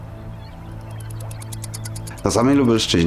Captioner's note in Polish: odgłos skrzydeł